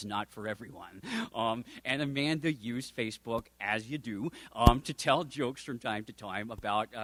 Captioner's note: chuckle